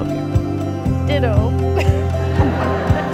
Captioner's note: laughing